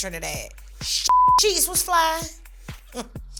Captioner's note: beep